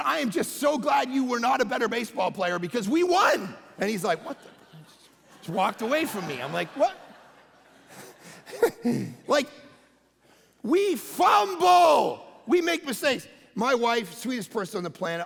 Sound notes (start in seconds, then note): 7.8 congregation laughing